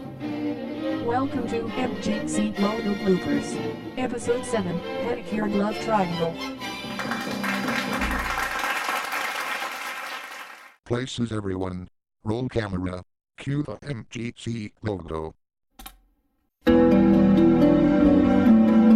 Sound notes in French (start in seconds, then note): 6.8 applaudissements du public; 15.6 cliquement sur la barre d'espace, musique en cours